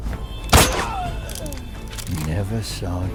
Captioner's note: character groaning